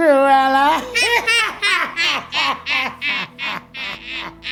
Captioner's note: both laughing